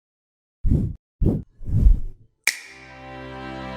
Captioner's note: logo whooshing; bright music